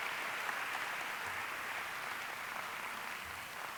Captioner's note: applause